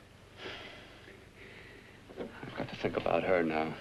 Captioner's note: Bill sighs